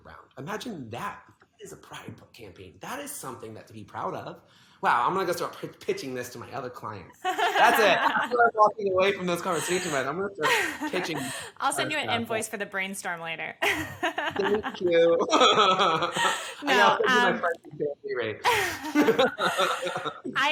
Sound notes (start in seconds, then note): 7.2 laughs; 13.6 both laugh